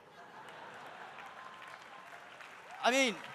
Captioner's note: audience laughs; audience applauding